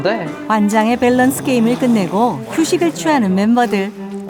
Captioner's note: snoring